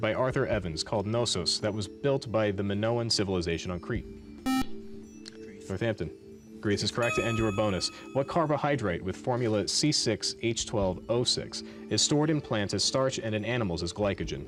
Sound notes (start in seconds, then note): 4.5 beep